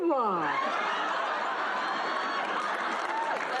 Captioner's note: laughs